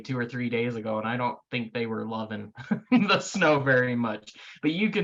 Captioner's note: laughs